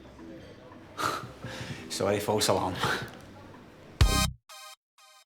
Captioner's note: chuckles